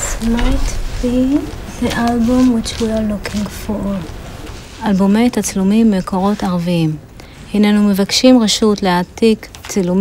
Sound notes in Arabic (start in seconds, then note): 4.9 يتكلم بلغة أجنبية